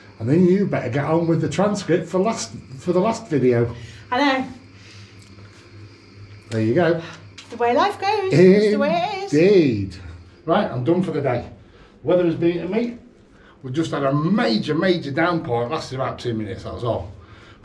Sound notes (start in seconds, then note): none